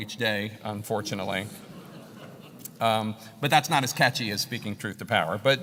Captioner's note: laugh